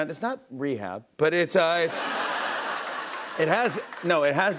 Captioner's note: laughter